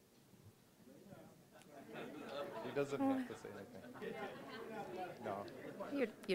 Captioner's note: audience laughing